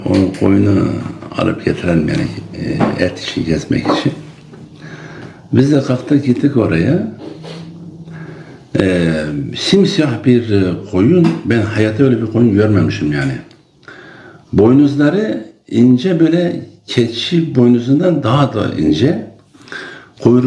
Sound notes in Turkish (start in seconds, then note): 7.8 homurdanır